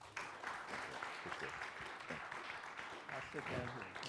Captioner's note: audience clapping